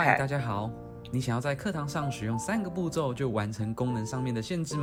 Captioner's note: speaking Chinese